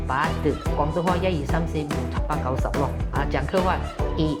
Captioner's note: Cantonese